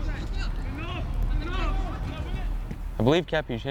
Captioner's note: players shouting